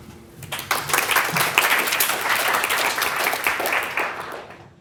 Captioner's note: audience claps